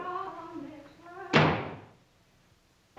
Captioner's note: door slams